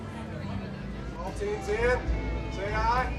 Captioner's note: voiceover